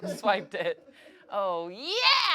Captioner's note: everyone laughs